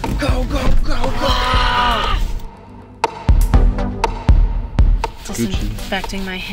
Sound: both quietly imitate screaming

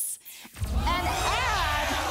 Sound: audience applause

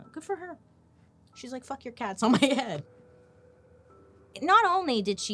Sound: laughing

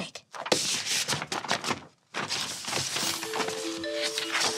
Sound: paper rustling

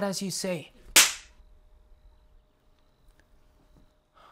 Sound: hand slapping

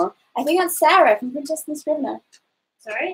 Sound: speaks quietly

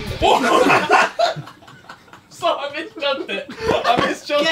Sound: Harry laughing

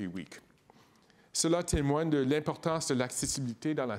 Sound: speaking in French

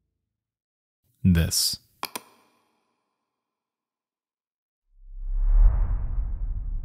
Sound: computer mouse clicking; high intensity music

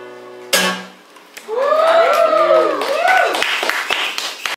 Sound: cheers and applause

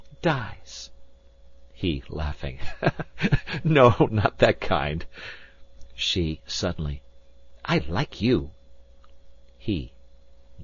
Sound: laughing

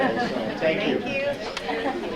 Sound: audience laughing

